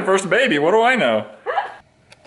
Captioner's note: laughs